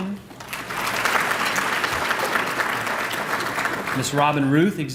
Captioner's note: applause